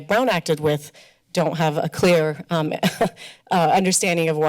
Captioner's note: laughter